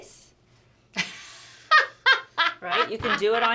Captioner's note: laughs